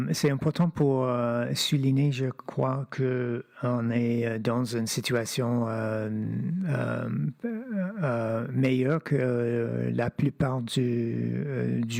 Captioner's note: speaking French